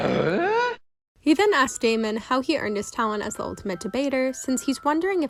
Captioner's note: eughhh